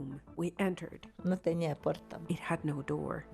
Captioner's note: speaking in foreign language